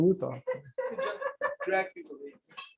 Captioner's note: laughter